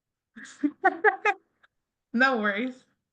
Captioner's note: chuckles